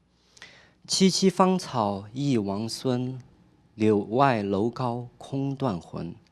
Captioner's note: speaking chinese